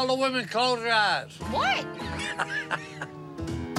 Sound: laughs

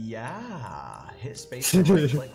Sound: laughing

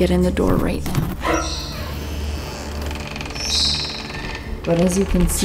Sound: door creaks; dramatic music

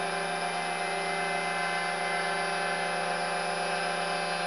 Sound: cutting Metal; motor Whine

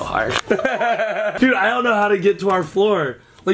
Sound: laughing

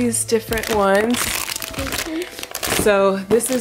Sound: crinkling

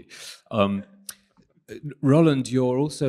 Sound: chuckling

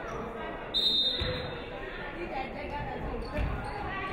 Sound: referee whistles

